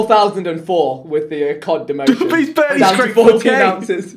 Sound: all laughing

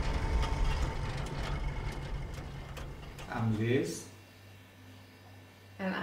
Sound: engine chugging

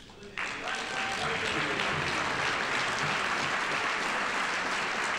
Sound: audience applauding

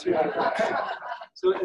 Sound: audience laughing

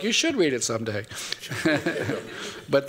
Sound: laughter

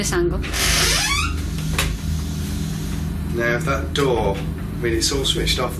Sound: door creaks

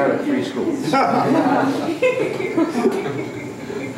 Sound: laughter

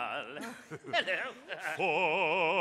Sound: laughs

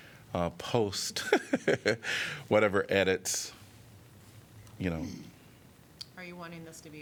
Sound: laughter

